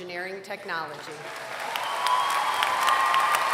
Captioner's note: applause